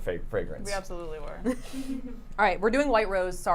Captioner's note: chuckles